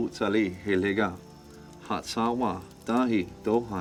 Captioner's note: man speaking Cherokee